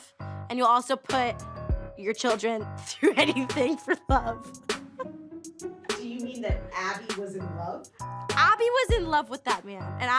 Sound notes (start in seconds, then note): 3.0 laughs